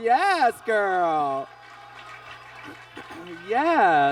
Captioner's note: audience claps